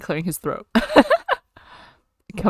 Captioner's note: laughs